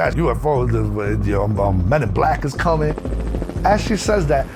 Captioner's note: helicopter whirring